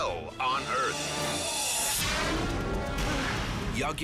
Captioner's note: scene swooshing